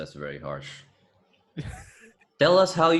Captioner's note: totally not an evil laugh-slash chuckle